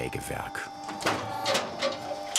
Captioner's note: motor roar